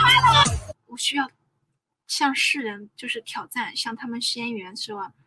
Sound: speaking in Chinese language

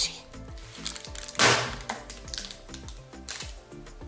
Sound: bangs; bright music

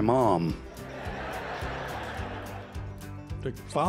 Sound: laughter

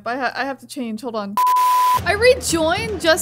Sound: colored bars beep; static hissing

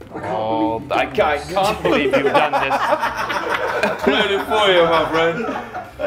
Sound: laugh

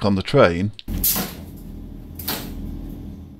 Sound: toilet door noises

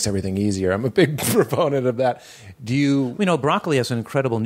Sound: laughs

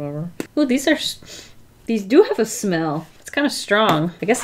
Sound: sniffs

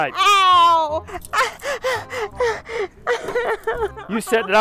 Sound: woman sobbing

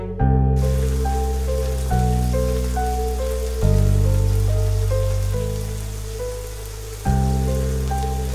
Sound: raining heavily in background

